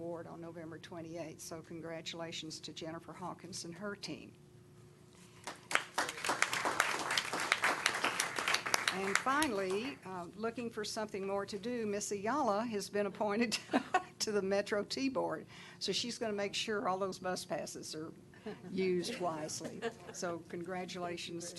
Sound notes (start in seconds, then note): 5.4 applause